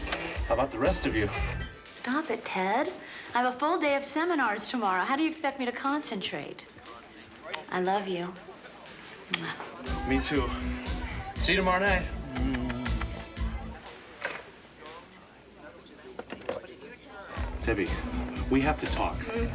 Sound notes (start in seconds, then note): 9.3 kisses; 12.2 kisses